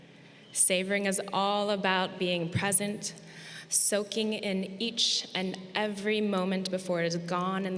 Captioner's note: none